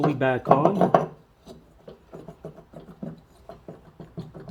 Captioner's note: wiggling sounds